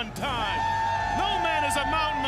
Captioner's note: crowd cheering